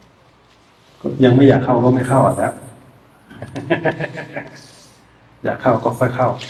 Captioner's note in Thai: เสียงหัวเราะ